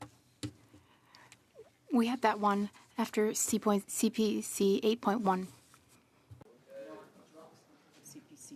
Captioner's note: speaking French